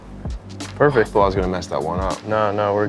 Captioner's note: exhales